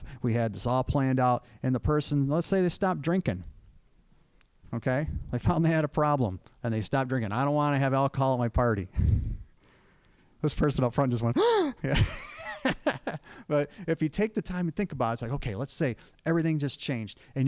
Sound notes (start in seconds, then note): 11.4 laughing; 11.8 gasp